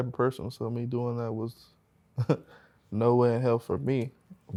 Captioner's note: chuckles